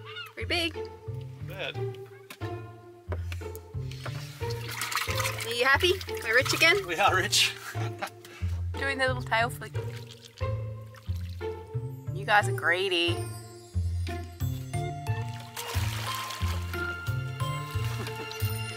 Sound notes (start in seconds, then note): 3.9 water sloshes; 7.5 chuckles; 15.8 water splashes